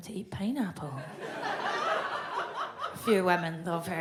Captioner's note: audience laughs